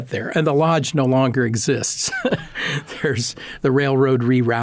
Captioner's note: laughing